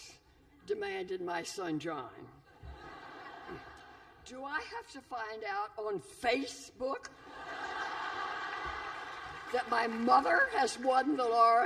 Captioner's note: laughter